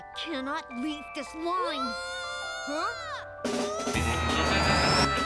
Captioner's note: child yelling